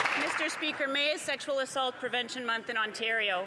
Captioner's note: applause